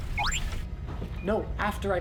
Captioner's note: R7 questioned chirp